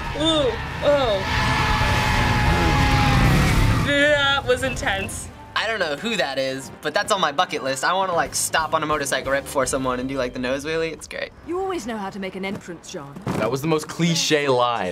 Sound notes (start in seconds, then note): 0.0 motorbike engine revs; 0.1 screams